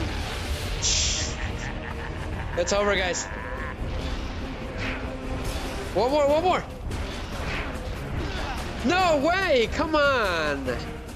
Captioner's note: laughter